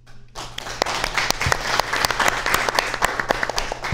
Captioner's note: audience applauds